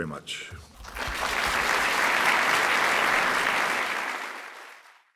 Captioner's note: applause